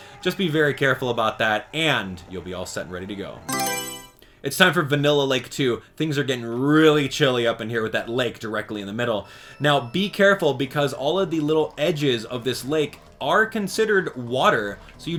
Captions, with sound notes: Just be very careful about that, and you'll be all set and ready to go. [Mario Selection Sound] It's time for Vanilla Lake 2. Thing's are getting really chilly up in here with that lake directly in the middle. Now, be careful because all of the little edges of this lake are considered water,